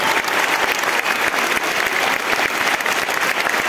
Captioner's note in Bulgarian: аплодисменти